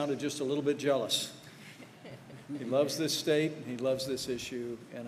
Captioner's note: laughter